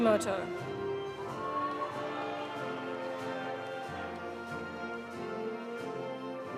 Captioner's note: audience applauding; audience cheering